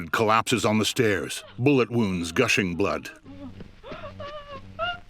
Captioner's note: Diane sobbing; sobbing continues